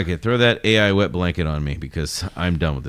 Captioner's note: uh